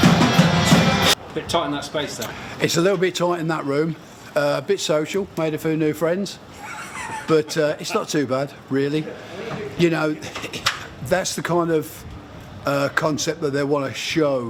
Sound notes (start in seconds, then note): 6.5 interviewer laughing